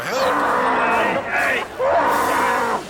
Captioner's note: screaming